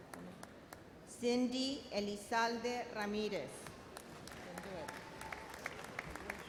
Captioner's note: audience applauds